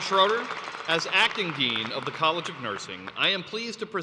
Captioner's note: applause